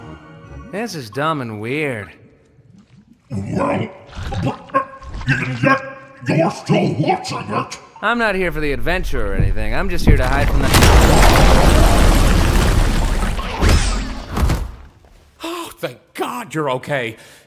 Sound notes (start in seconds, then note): 10.0 Kaufmo thuds